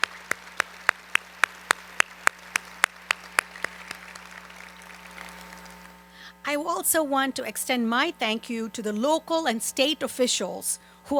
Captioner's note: applause